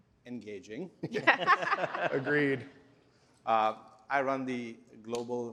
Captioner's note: laughter